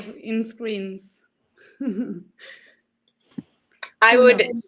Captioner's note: laughs